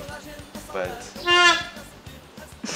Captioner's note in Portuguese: foi a cadeira a fazer barulho